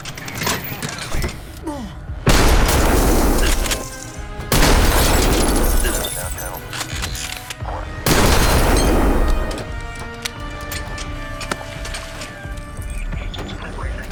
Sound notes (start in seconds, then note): 2.2 gunshots blasting